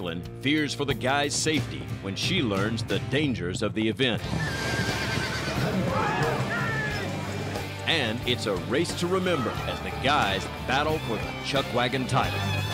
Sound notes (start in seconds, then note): 4.2 horse neighs; 5.3 crowd gasps